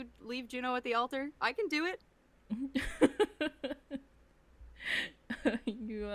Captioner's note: chuckles